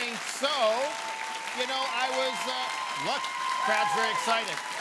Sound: loud cheering

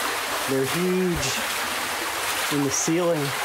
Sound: none

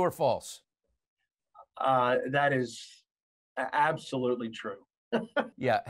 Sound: laughing

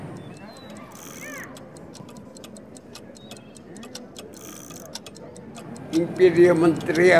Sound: sound of clocks working and winding

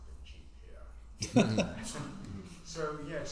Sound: laughs

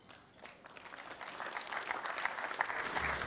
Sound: applause

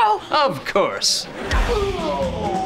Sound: groaning

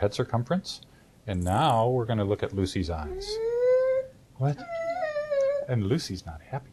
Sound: crying

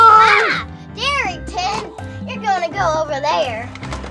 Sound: screams

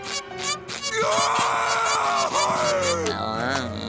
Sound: groaning

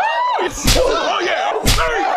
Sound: slap

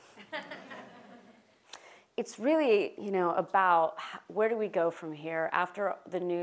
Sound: laugh

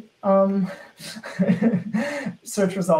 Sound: laughing

